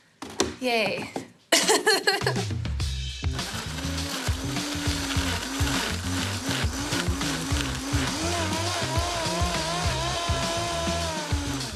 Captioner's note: laughs